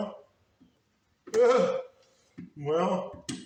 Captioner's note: laughs